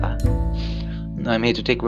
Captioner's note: sniff